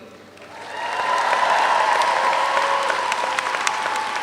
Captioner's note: audience applauds